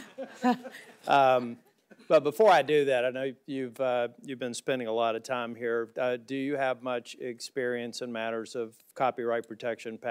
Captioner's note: laughter